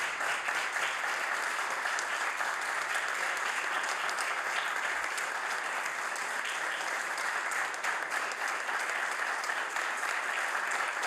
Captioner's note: applause